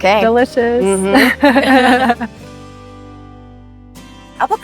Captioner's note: calming music; both laughing